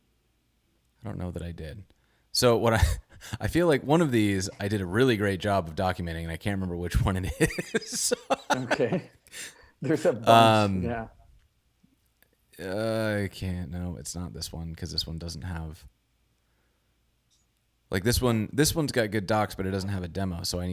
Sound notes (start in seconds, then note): 7.2 laughs; 9.8 chuckles